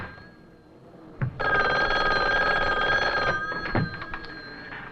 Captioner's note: phone rings